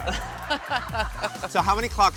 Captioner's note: laughing